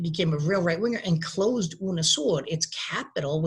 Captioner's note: speaking in a foreign language